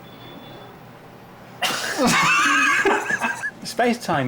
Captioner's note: all laugh